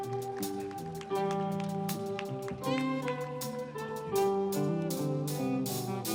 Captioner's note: audience applauding